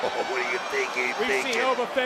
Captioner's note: chuckles